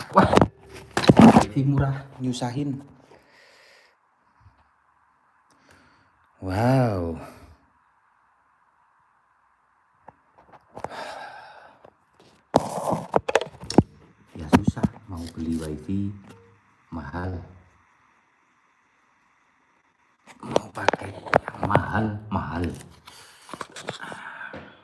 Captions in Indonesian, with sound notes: Wah, lebih murah nyusahin. Wow. [menghela napas][terkesiap] Ya, susah mau beli Wii. Mahal, mau pakai yang mahalmahal.